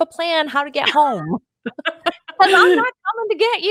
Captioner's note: laughs